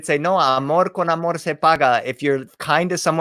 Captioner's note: spoken in foreign language